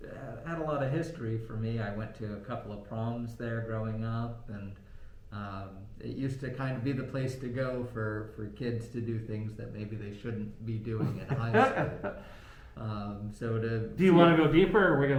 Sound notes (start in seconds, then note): 11.0 laughing